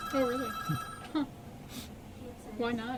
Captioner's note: phone rings